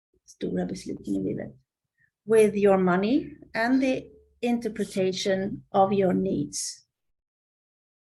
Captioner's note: Swedish